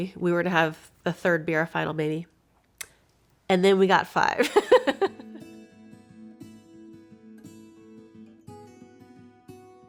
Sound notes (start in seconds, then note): 4.4 laughs; 5.1 calming music